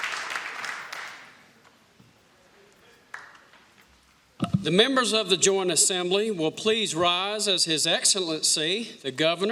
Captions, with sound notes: [ APPLAUSE ] >> THE MEMBERS OF THE JOINT